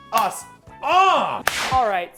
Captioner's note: manly grunt